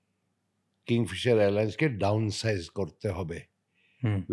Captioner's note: speaking in Bengali